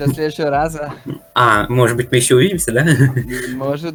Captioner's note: cringe laugh